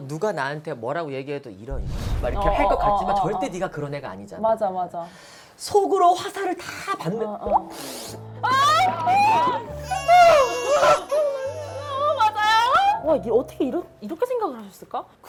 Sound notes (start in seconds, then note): 8.4 crying